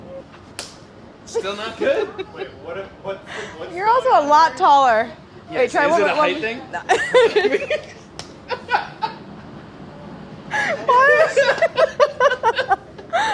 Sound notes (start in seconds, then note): 8.5 laughing